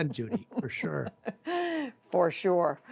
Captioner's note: laughter